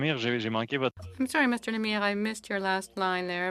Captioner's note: speaking French